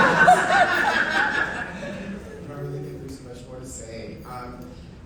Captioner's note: audience laughing